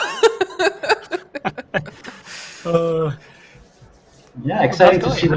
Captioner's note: laughter